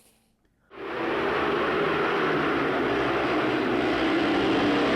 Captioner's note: bikes droning